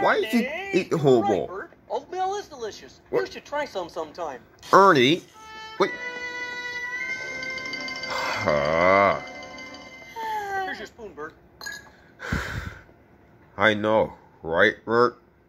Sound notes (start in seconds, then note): 8.3 groans; 9.9 bert sighing; 12.2 sighing frustraded